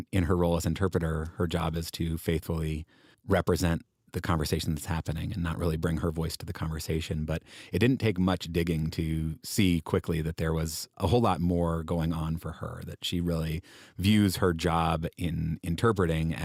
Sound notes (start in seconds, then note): none